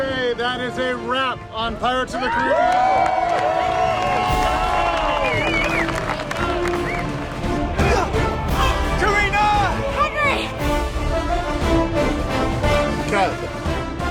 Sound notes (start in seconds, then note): 5.4 cheering continues; 7.5 grunting